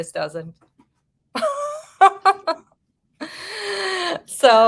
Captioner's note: woman laughing